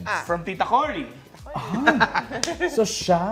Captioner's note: both chuckle